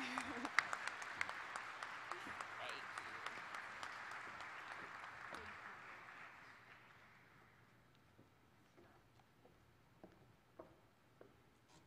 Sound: applause

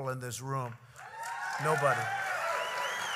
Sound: applause

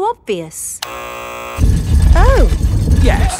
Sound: buzzer sounds

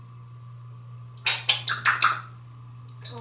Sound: lip smacking sound

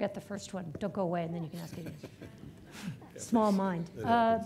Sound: audience laughing

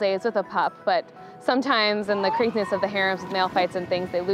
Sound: seals barking

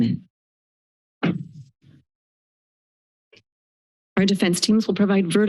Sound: silence

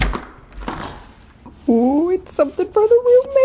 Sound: door locked open

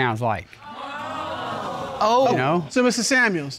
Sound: audience exclaims

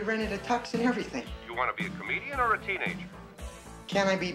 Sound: on phone

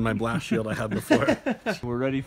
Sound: both laugh

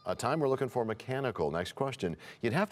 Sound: bell rings, time expires

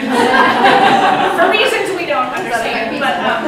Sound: audience laughs

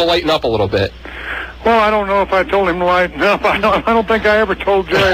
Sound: laughs

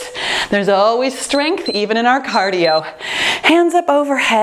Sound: timer beeps

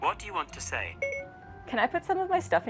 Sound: beep beep

